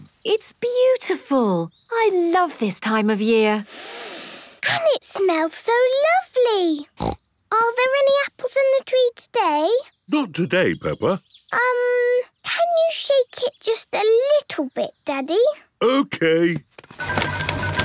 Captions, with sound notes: - It's beautiful. I love this time of year. (Peppa inhaling deeply) - And it smells so lovely! (snorting) Are there any apples in the tree today? - Not today, Peppa. - Um... can you shake it just a little bit, Daddy? - Okay.